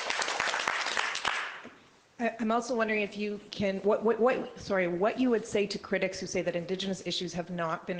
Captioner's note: applause